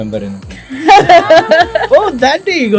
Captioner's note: laughs